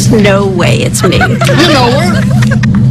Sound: friends laughing

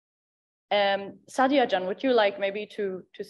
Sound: speaks in Dari

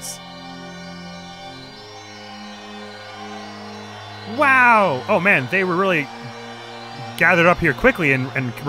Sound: cheering

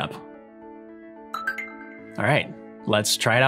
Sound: computer chimes

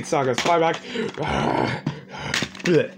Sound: growling

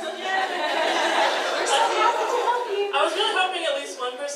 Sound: audience laughs

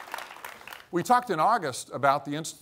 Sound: applause

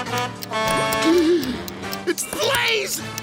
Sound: gasps

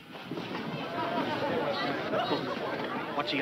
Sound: crowd chattering

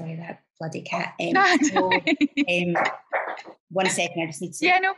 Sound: laughs

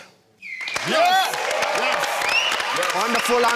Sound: cheering

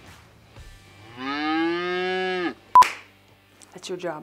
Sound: mooing; cow mooing; beep

